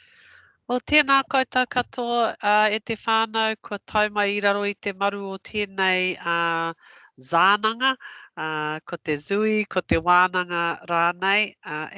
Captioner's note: non-english speech